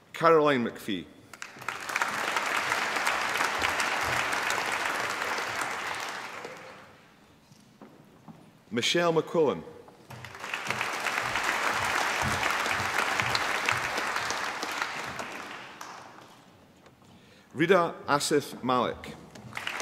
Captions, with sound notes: Caroline MacPhie. (APPLAUSE) Michelle McQuillan. (APPLAUSE) Rida Asif Malik.